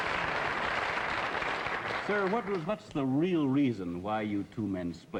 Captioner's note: applause